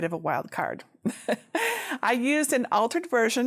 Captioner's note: chuckles